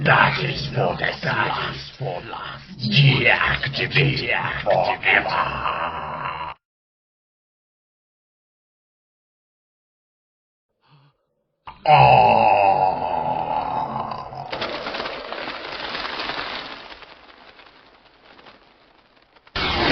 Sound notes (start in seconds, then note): 11.7 screams